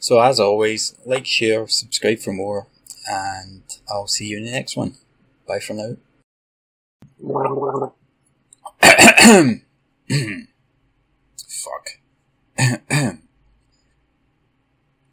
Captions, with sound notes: So as always, like, share, subscribe for more and I'll see you in the next one. Bye for now! [GARGLING] [LOUD COUGHING] Kkhmmm.... fuck. Ukhhh... Khhh... pretty good these subtitles eh? Wrote them myself don't you know.....